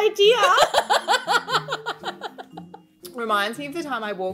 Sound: women laughing

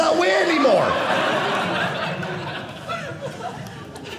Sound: audience laughing

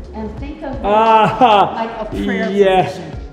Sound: chuckles

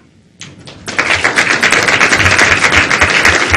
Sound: applause

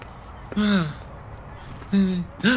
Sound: sigh

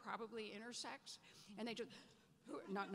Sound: gasps

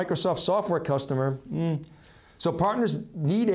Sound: murmurs

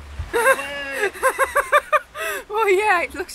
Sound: laughs

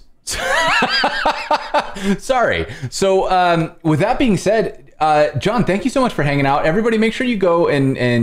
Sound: laughter

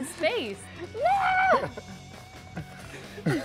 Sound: chuckling; laughs

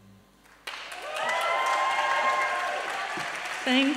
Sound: applause and cheering

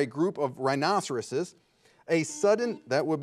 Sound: buzzer beeping

